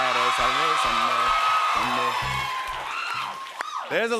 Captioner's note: cheers and applause